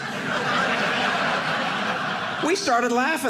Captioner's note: audience laughing